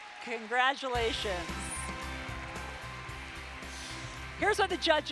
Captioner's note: applause